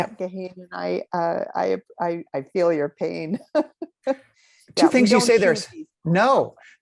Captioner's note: laughs